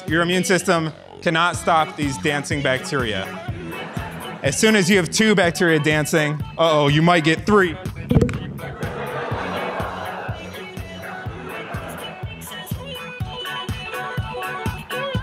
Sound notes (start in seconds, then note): 8.5 audience laughs